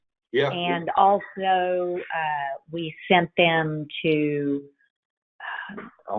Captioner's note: sighs